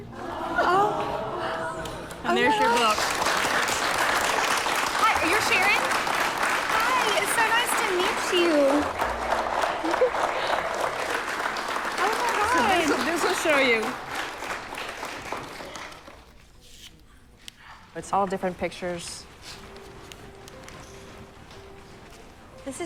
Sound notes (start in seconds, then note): 2.9 applause; 8.7 applause